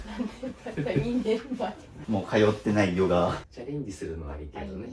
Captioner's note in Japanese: 笑い